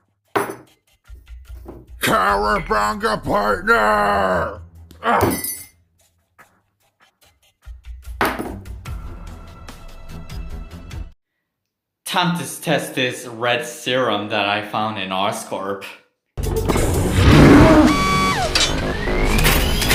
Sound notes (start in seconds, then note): 2.8 yelling